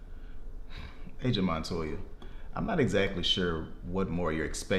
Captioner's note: sighs